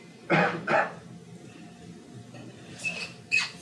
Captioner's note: coughs